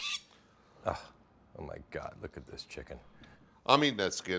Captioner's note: gasping